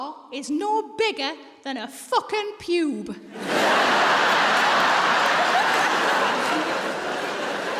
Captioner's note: audience laughs